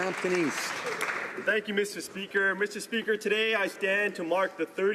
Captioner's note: applause